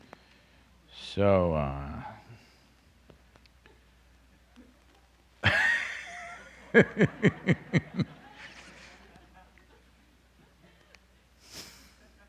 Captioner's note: laughs